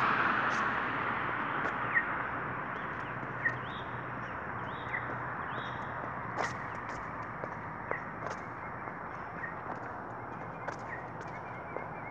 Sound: audible pedestrian signal cuckoo/cheep

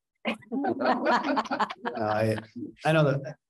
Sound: laughing

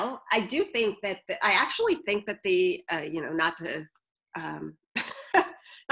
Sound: laughs

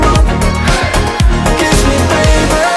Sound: crowd

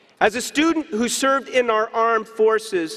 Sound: none

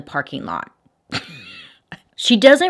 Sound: giggles

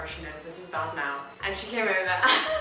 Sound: laughing

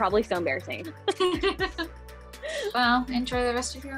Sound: laughs

